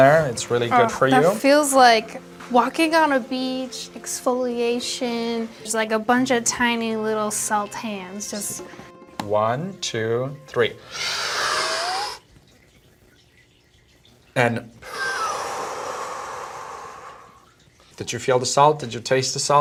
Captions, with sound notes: It's really good for you. That feels like walking on a beach, exfoliation. There's, like, a bunch of tiny little salt hands just-- One, two, three. [inhaling] And-- [exhaling] Did you feel the salt? Did you taste the salt?